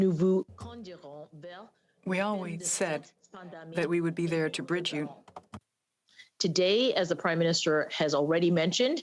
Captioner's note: speaking French